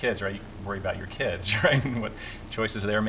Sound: laughter

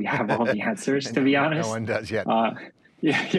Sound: laughs

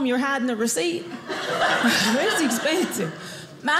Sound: audience laughing

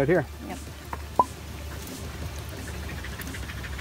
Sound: pop

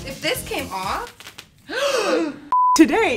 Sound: fabric tears; gasps

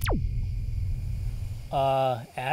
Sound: crickets, low rumbling

